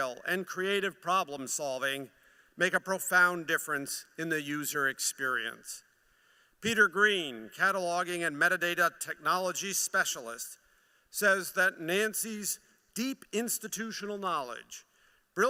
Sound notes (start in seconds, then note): none